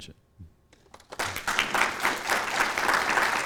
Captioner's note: applause